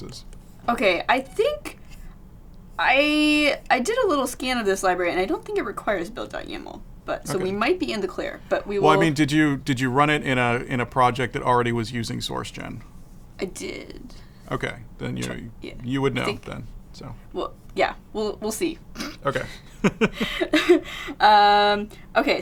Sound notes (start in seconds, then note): 19.0 laughs; 19.0 chuckles